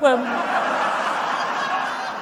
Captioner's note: laughter